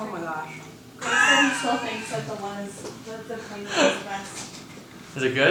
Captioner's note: laughing and chattering